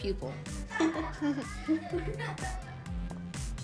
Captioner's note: classmates chuckling